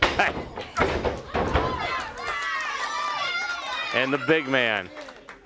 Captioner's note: crowd chatter